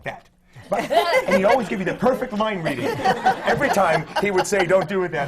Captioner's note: laughter